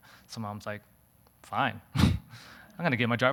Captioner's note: laughing